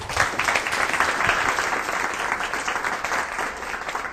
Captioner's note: applause